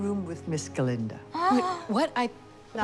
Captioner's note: gasps